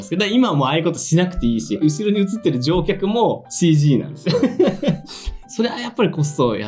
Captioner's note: laughs